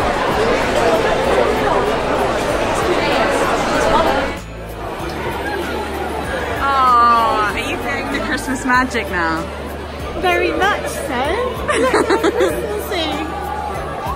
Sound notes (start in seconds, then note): 0.3 audience chattering loudly; 5.4 audience chattering; 11.5 laughs